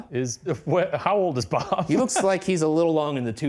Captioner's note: laughing